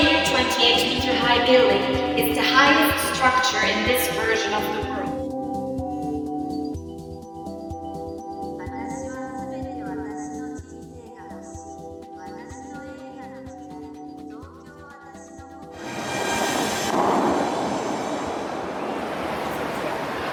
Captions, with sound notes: The 828m high building is the highest structure in this version of the world. (bang from the fountains)